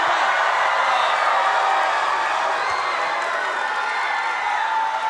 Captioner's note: crowd cheering